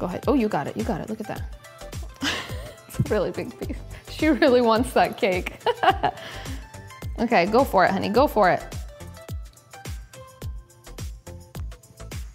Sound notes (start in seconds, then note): 2.1 chuckles; 5.6 laughs; 9.2 soft upbeat music